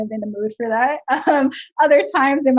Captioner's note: laughs